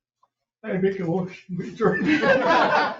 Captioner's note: members laughing